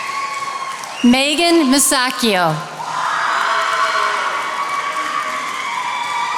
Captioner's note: attendees applauding